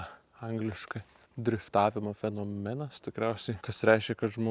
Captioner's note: in Lithuanian